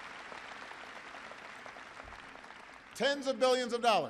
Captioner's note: applause